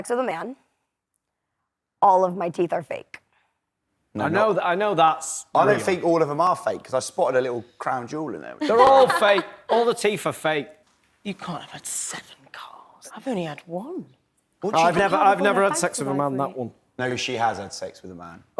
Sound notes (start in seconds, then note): 8.6 laughs